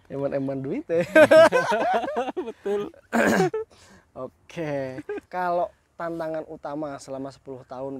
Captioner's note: laughs